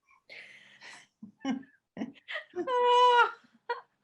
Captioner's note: both laugh